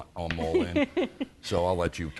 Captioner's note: laughs